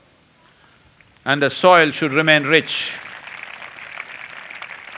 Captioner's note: applause